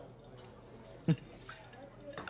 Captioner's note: chuckles